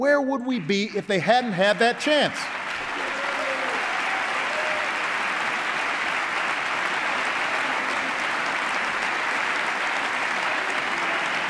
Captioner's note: applause